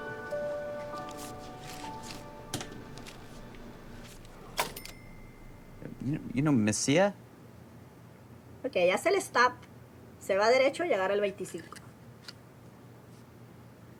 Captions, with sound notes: (cash crinkling) (register dinging) - You, you know Mesilla? - Okay. (speaks in Spanish)